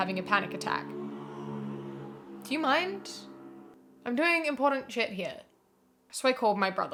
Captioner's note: motorcycle drives past